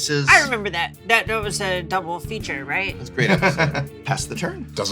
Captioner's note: laughs